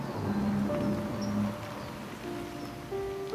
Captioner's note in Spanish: Ruido de motor de auto